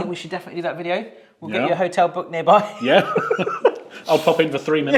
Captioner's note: laughs